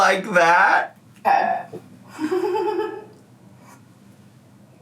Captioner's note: laughs